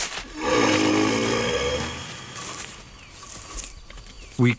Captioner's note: rhino grunts